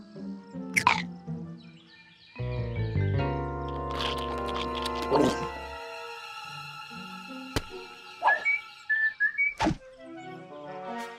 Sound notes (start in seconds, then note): 3.8 carrot crunching; 4.8 gulps; 8.2 whistling